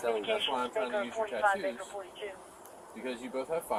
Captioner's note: radio chatter